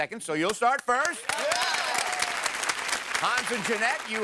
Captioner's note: audience applause